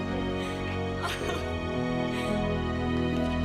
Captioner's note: laughs